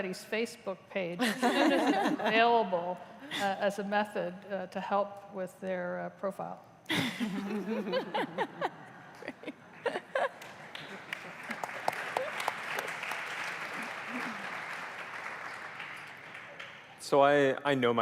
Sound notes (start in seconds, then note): 9.6 laughter; 13.2 applause